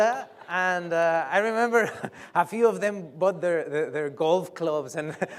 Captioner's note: laughs